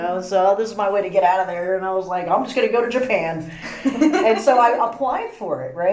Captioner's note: laugh